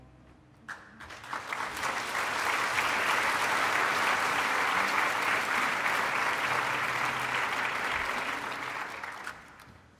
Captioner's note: applause